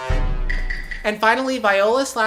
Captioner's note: Among Us noise